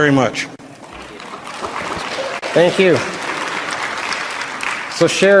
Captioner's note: applause